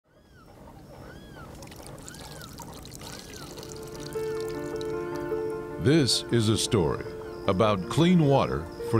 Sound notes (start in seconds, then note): 1.4 water running; 4.1 gentle music